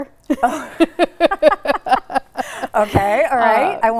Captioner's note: both laughing